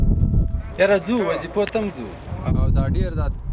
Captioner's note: speaking in a foreign language; translator speaking in a foreign language; speaking in a foreign language